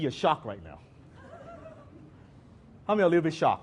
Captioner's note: audience laughs